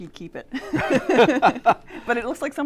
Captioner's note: both laugh